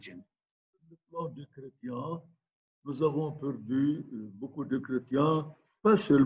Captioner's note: speaking in foreign language